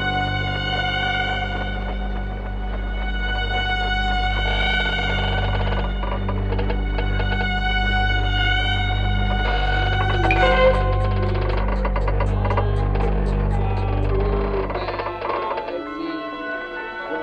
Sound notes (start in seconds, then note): 4.1 windmill creaking; 10.0 singing faintly